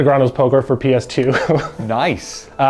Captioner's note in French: en riant